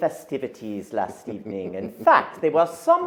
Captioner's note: laughs